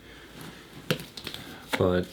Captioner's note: tapping